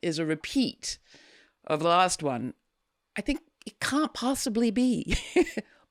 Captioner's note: chuckles